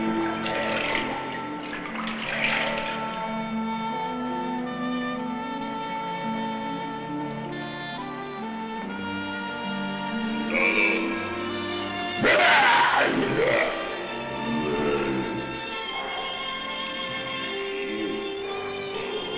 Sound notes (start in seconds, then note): 10.6 speaking in a foreign language; 12.3 yelling